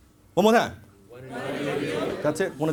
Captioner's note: audience Members In Unison